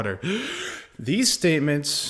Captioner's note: dramatic gasp